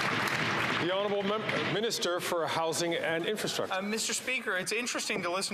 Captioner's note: some Applause